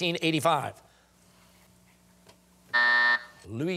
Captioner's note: buzzer sounding